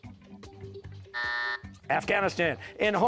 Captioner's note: buzzer